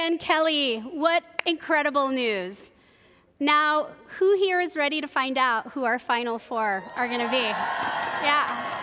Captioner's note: applause